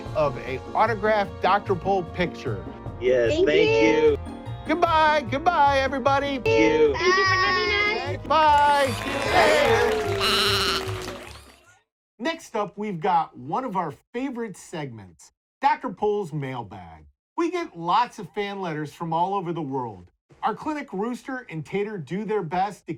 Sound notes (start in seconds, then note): 9.8 animals applauding; 10.1 goat bleating